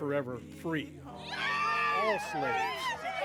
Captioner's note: people cheer